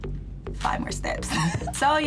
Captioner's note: laughs